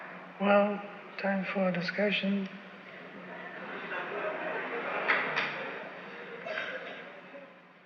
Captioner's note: laughter